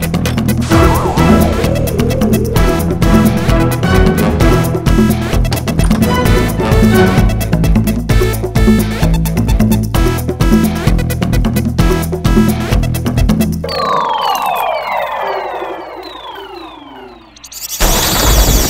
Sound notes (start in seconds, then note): 5.4 Door opens; 5.4 Door closes